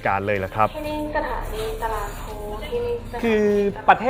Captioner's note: train announcement